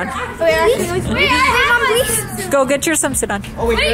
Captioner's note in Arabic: الأطفال يتحدثون عن بعضهم البعض في حماس